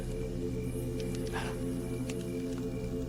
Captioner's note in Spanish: susurrando